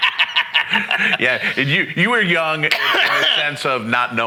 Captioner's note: laughing